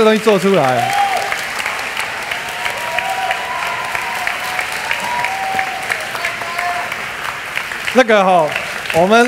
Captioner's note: applause